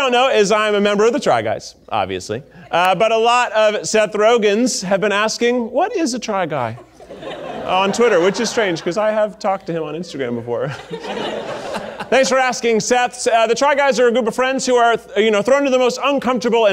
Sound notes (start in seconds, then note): 6.7 audience laughing; 10.6 audience laughing